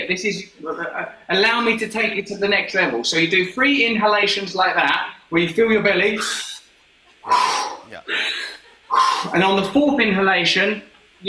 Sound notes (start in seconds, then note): 7.2 breathing sharply